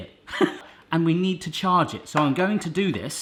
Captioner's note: he laughs